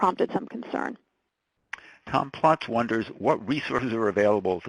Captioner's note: voiceover